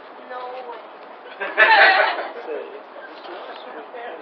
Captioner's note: laughter